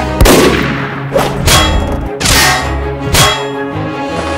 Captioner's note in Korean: 총알이 튕겨나감